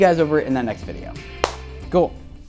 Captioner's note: claps